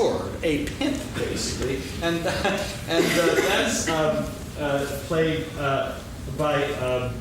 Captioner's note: laughs